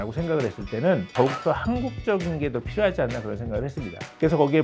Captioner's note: emphasizing sound effect